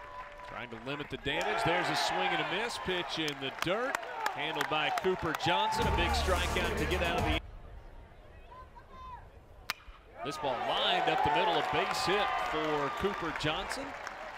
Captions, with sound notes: Trying to limit the damage, there's a swing and a miss, pitch in the dirt, handled by Cooper Johnson, a big strike-out to get out of the inning. [crack of bat] This ball lined up the middle, a base hit for Cooper Johnson.